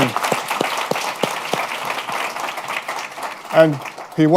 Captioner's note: applause